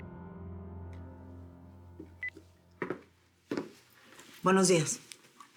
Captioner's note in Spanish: Suena el celular